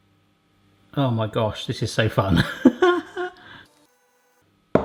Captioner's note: laughs